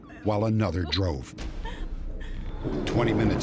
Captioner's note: crying